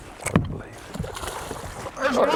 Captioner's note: splash